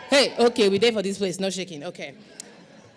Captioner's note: non-english speech